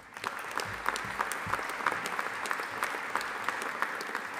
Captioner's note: audience applauding